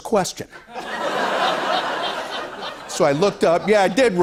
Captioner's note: laughter